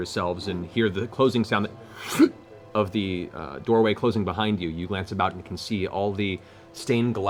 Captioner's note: sucking sound